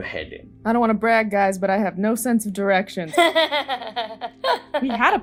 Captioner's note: laughter